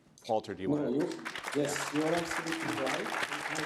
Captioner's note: audience applauding